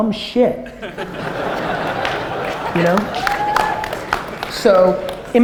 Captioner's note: audience laughter